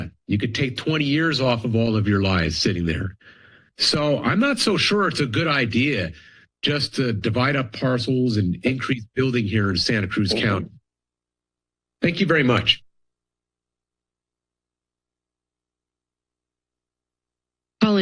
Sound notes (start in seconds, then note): 9.9 pause; 13.2 silence